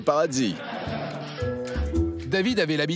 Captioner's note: laughs